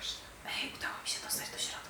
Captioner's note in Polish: szepcze